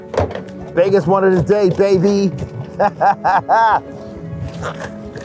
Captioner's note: laughs; gentle music